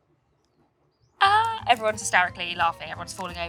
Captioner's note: fake laughs